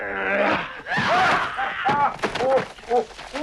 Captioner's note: Torente grunts; Torente groaning; Hundra shouts; Torente whimpering